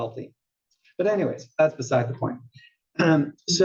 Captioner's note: cough